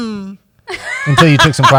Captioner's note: laughs